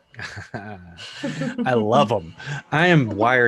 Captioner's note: laughing